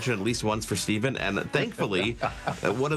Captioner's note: chuckles